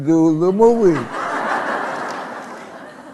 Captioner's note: laughter